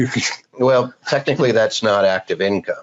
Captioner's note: laughing